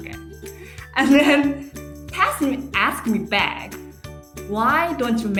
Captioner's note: laughing